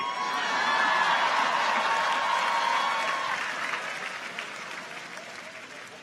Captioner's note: audience applauds; audience cheers